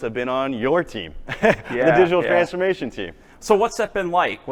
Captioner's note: laughs